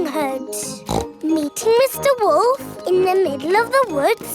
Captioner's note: snorts